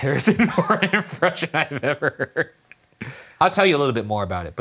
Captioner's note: laughing